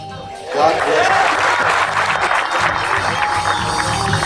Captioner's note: audience applauding; vibes and rock music